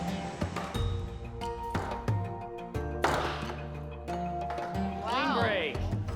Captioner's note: pounding